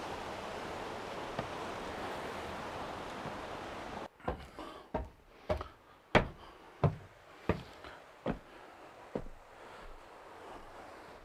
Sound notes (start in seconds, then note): 3.7 feet thudding; 7.6 Mercer breathing softly